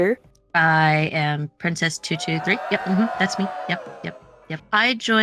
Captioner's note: cheers